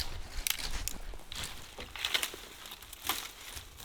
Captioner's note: raking a bush